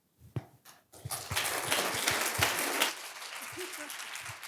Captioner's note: applause